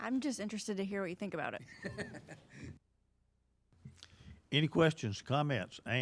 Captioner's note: laughing